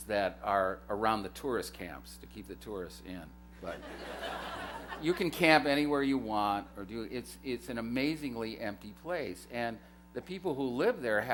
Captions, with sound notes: that are around the tourist camps to keep the tourists in. [LAUGHTER] You can camp anywhere you want. It's an amazingly empty place, and the people who live there